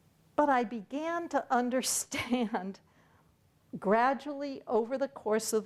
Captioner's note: chuckles